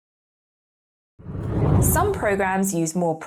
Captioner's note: air whooshing